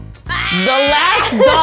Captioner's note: footsteps; marker scratches